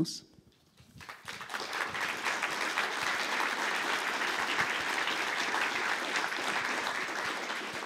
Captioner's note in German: Applaus